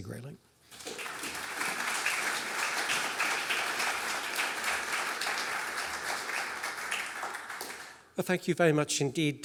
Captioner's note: applause